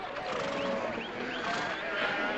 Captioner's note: cattle mooing